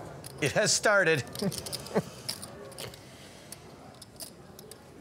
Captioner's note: laughing